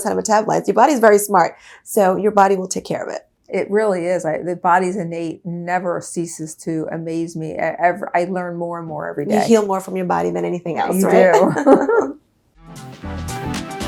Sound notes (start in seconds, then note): 10.8 upbeat music; 11.0 laughter